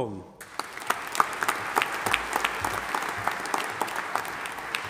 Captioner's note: audience applauding